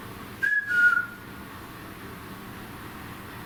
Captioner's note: whistles